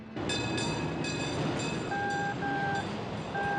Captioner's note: Tramvay zil; telsiz bip sesi